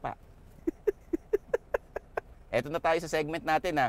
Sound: laughs

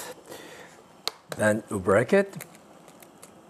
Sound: egg cracking

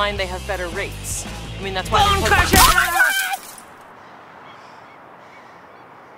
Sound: yelling

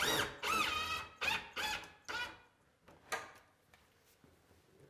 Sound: drill buzzing

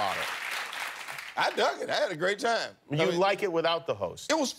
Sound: applause

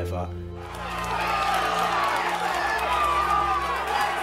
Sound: crowd cheering

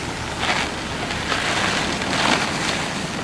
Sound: snow Crunching Under Tires

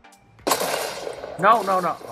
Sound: gun blasts

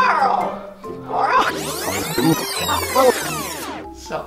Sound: rewind sounds

